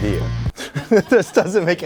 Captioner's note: chuckles